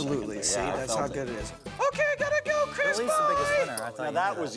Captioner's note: high pitched voice